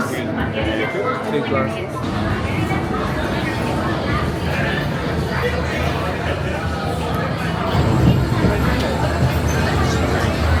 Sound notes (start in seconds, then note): 2.0 cars running; 5.9 crowd murmuring